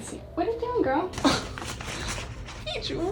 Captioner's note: Peaches scratching